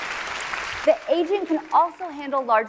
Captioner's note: applause